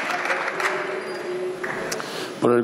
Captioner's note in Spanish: Aplausos